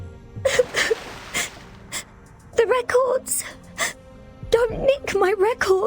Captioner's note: sobs